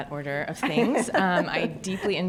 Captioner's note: laughs